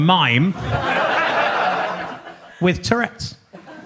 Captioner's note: audience laughs